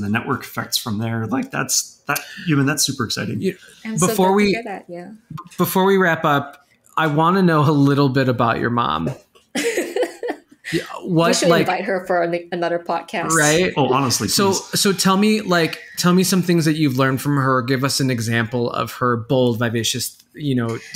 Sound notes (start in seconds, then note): 9.3 giggling